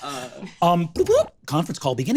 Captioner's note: vocalizes beeps